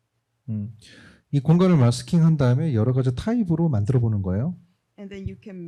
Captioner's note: speaking korean